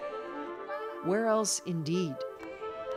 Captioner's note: speaking alternate language